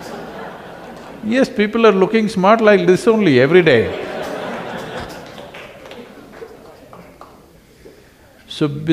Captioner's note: laughter; 笑聲; laughter; 笑聲